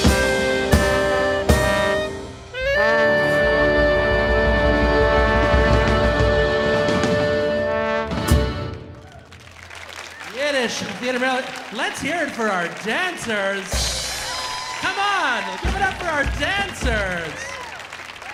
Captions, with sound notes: (audience applauding) (audience cheering) Yiddish Theater. Let's hear it for our dancers! (audience applauding) (audience cheering) Come on, give it up for our dancers.